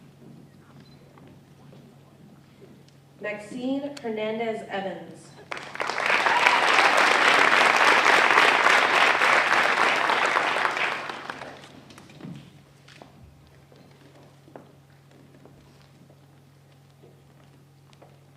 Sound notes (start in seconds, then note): 5.4 applause